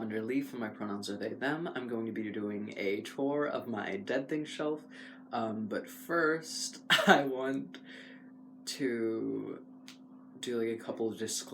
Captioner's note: laugh